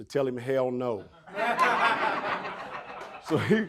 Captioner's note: audience laughing